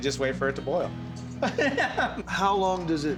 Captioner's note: laughing